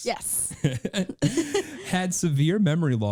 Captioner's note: laughing